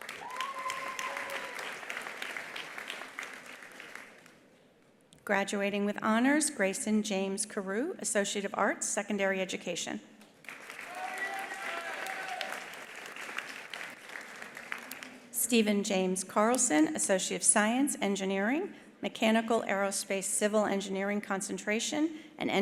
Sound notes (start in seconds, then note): 0.0 attendees applauding; 0.1 attendee cheering; 10.4 attendees applauding; 10.8 attendee cheering